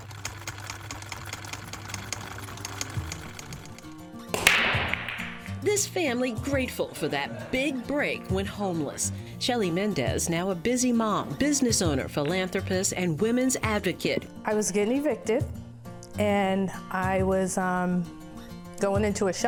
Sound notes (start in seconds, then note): 0.0 sewing machine chucking; 4.3 billards cracking